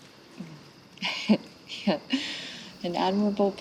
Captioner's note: laughs